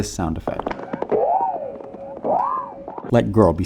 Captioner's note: cartoonish Wobbling